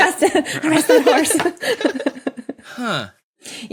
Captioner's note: both giggling